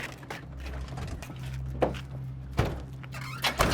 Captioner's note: car door clatters open; car doors slamming shut; engine turns over